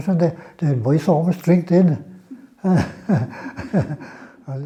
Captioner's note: laughter